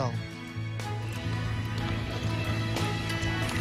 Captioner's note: cheers and applause